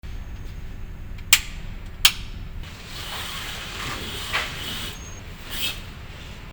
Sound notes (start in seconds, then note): 2.0 click of light switch; 2.6 swish of curtains closing